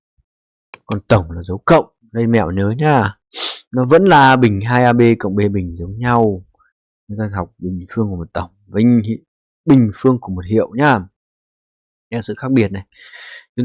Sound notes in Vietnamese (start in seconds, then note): 3.3 khịt mũi